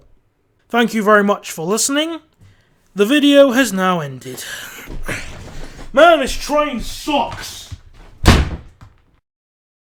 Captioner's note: banging